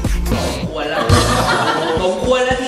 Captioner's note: upbeat music playing; laughs